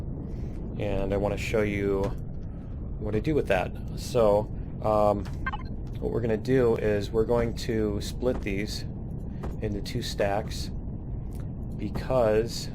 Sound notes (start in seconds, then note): none